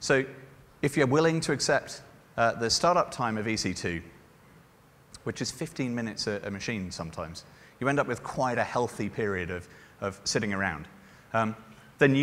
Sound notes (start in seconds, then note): none